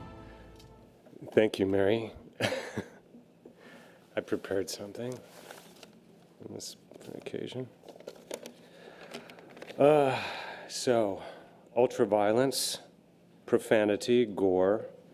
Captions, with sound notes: - Thank you, Mary. (laughs) I prepared something. For the occasion. So, ultra-violence, profanity, gore,